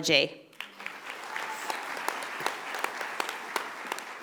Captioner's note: audience applauding